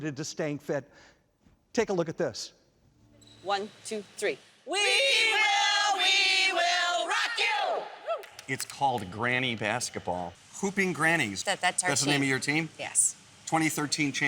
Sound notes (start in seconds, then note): 8.2 clapping